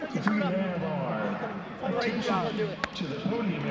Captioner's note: teammates chattering